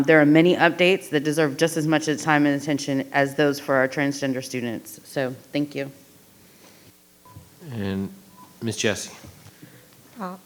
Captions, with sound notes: There are many updates that deserve just as much time and attention as those for our transgender students, so thank you. (microphone beeping) - And Miss Jessie.